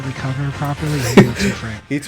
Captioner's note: laughs